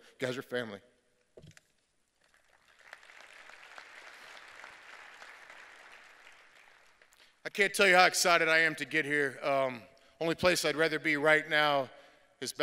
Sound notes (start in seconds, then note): 2.2 applause